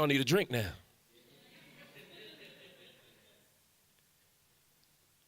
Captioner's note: audience laughs